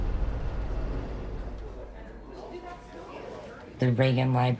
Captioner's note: people talking in background